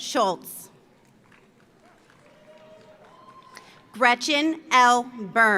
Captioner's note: audience applauds; audience cheers